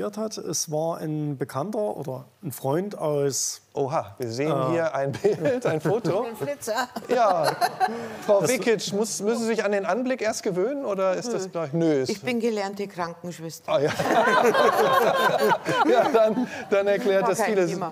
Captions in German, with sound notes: es war ein Bekannter oder ein Freund aus ... Oha! Wir sehen hier ein Bild, ein Foto. Wie ein Flitzer. (Lachen) Frau Vekic, müssen Sie sich an den Anblick erst gewöhnen? Nö, ich bin gelernte Krankenschwester. Ah ja. (Lachen) Ja dann erklärt das vieles.